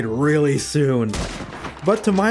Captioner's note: gunshot